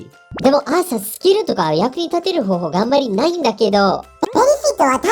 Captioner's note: digital foreign language